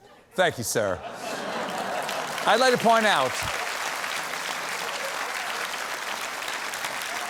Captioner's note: applause